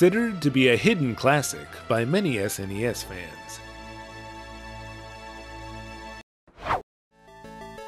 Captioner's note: whoosh